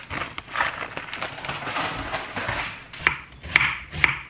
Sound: sad footsteps

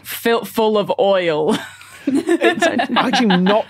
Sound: giggle

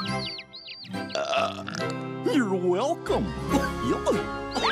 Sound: burping

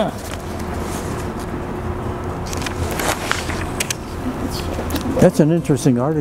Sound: noise of pages turning

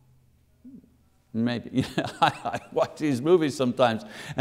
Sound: laughing

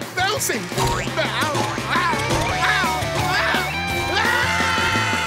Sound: groaning

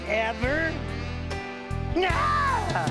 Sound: screams

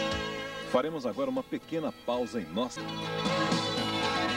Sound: male announcer speaking Portuguese

